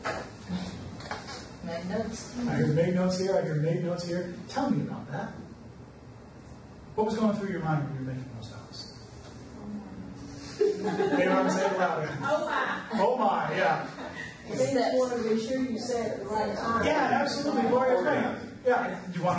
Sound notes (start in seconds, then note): 10.4 audience laughs